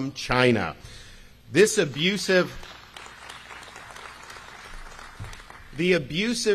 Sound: crowd applauding

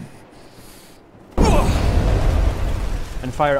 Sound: roaring fire

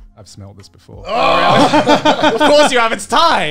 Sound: laughing

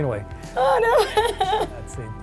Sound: mock crying

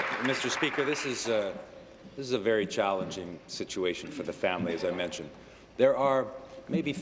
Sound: applause

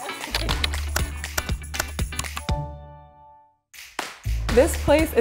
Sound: computer keys and mouse clicks

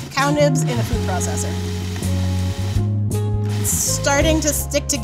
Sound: soft music; food processor grinding

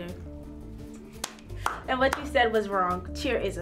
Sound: clapping

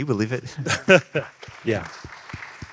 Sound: audience clapping

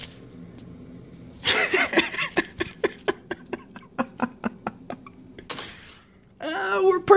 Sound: laughs in nerd

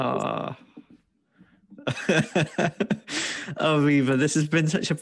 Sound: laughs

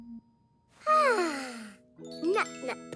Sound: sighing

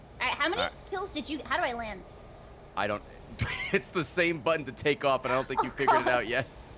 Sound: laughs

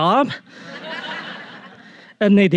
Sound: audience laughing

